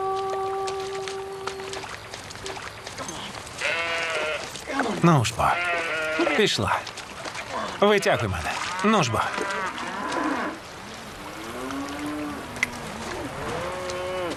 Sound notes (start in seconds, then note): 7.8 cattle mooing